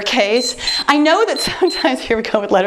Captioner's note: timer beeps